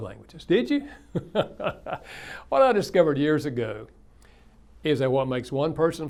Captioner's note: laughs